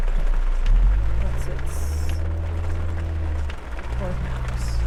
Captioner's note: faintly speaking